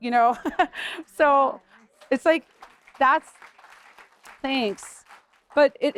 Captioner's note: laughter; applause